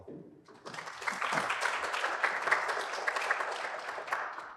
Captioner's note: applause